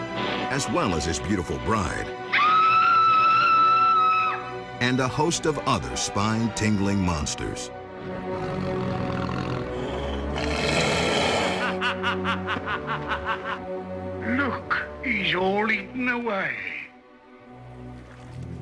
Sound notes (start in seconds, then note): 2.3 Bride of Frankenstein screaming; 8.0 monsters growling; 11.5 man laughing